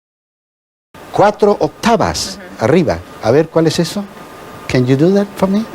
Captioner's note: speaking foreign language